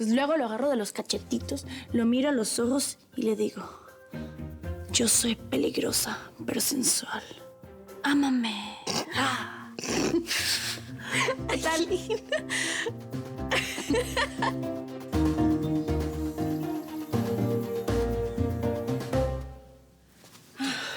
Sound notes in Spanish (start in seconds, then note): 11.6 risas